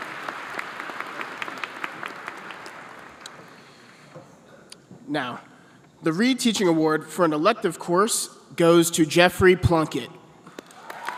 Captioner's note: applause